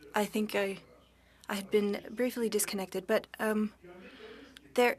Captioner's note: speaking French